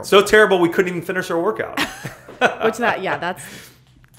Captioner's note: laughter